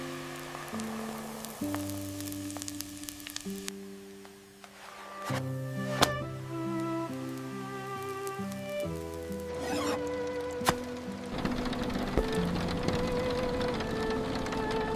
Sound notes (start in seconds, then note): 9.3 tortilla blistering on the iron skillet